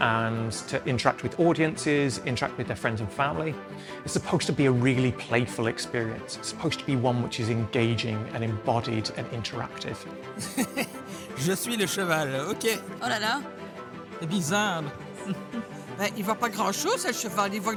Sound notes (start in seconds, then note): 10.4 laughing